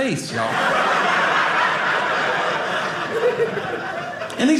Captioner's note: audience laughing